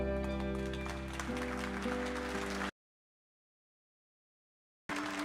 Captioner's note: audience applauding